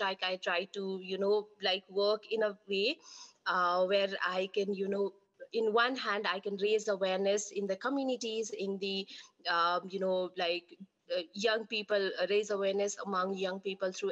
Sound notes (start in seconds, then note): none